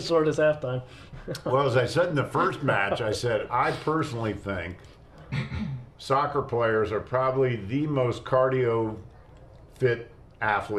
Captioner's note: laughter